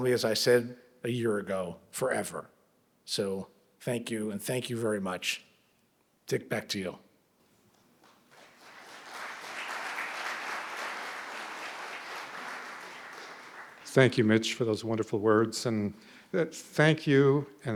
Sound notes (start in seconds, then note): 8.0 audience clapping